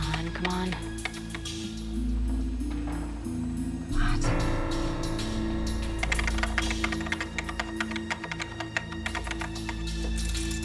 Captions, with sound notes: Come on, come on. What? (keyboard clacking) (tense music)